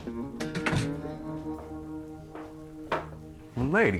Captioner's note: door thudding